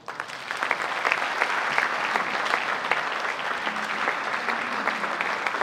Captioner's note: audience applauding